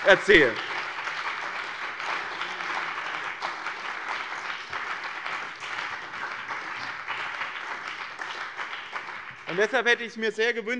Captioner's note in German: Beifall bei dem BÜNDNIS 90/DIE GRÜNEN und der CDU